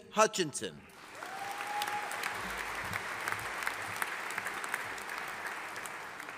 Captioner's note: audience applauding